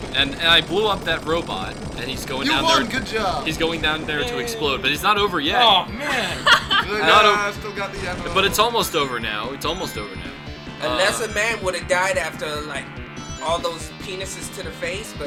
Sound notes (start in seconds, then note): 6.0 laughs